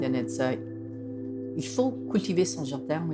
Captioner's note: speaks French